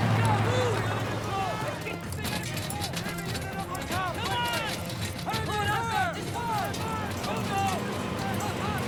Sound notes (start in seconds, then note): 2.9 men shouting